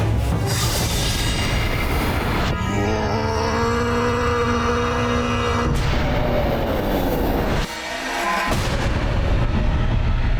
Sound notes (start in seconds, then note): 2.4 grunting